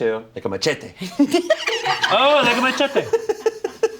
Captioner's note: all laugh